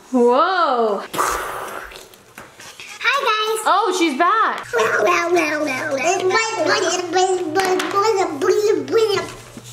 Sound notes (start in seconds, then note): 5.0 talking gibberish